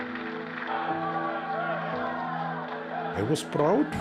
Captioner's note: cheering